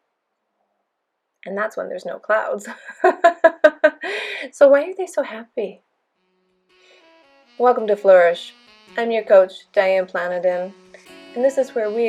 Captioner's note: laughter